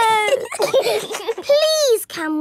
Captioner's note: giggling